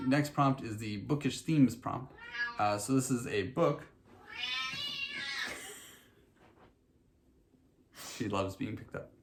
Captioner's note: cat meows; cat meows like she's very extra; cat meows